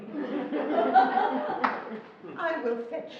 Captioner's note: laughing